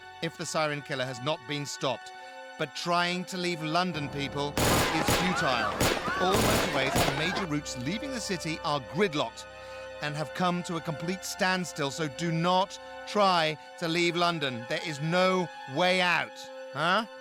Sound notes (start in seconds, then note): 4.6 gun firing; 7.2 people screaming